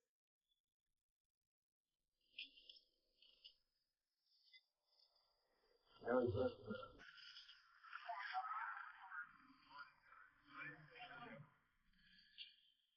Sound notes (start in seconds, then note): 5.7 chatter